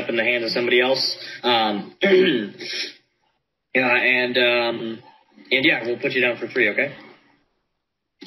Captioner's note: clears throat